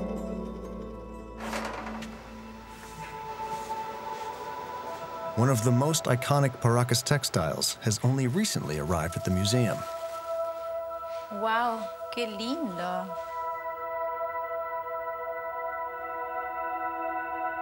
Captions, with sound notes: One of the most iconic Paracas textiles has only recently arrived at the museum. (speaking foreign language)